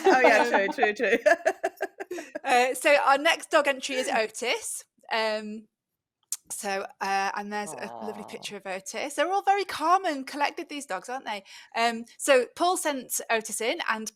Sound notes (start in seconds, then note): 1.7 chuckles